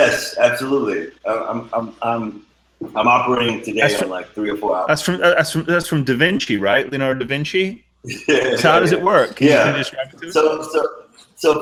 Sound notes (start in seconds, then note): 8.0 laughing